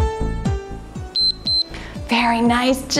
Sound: timer beeps

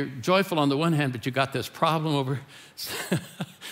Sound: laughing

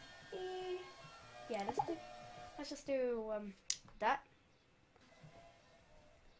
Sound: click

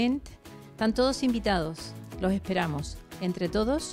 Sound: Spanish

